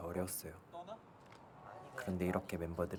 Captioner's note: chattering